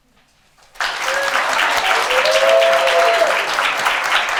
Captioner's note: attendees cheer